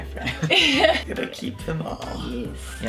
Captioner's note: group laughing